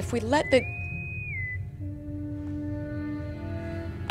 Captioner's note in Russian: свист интеркома